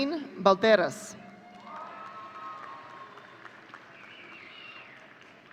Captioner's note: audience cheering